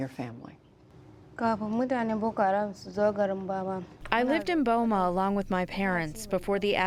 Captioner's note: through translator